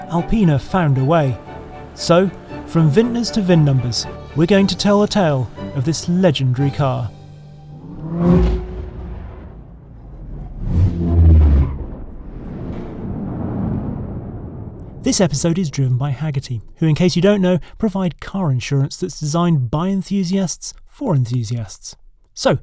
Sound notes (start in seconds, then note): 7.1 engine revving; 7.6 air whooshing